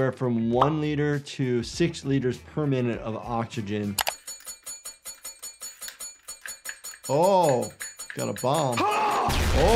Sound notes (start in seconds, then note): 4.0 metal clinking; 8.7 person screams